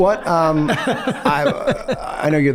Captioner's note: Charlie laughs